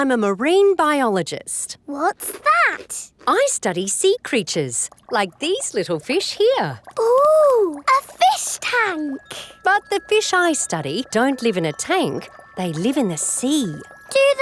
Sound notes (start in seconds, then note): none